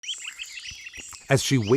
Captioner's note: birds chirping